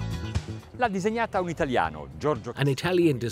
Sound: speaking Italian

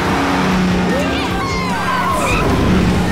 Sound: all cheering

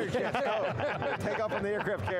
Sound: laughter

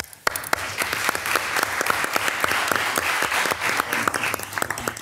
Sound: attendees applaud

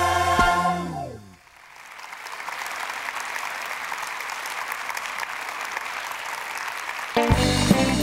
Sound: applause

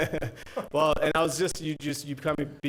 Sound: laughs

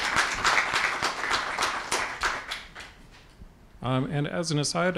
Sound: applause

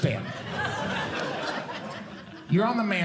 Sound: audience Laughing

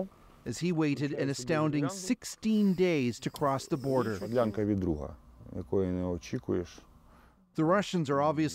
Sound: speaking alternate language

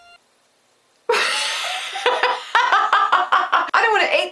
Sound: laughter

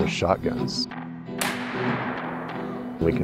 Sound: gunshot

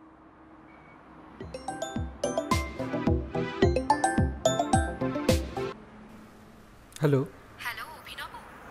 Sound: phone Rings

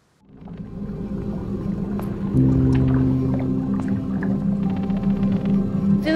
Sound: eerie tones; water bubbling

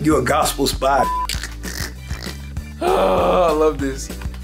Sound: laughing

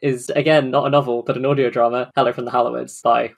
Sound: none

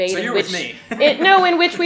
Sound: laughs

